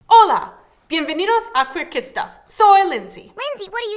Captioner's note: speaking in a foreign language